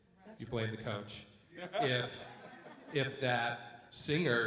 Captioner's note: light laughter